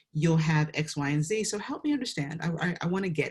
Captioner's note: none